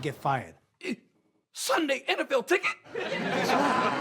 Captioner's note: audience laughs